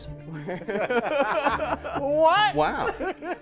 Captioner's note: group laughs